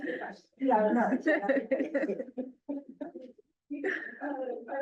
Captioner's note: laughter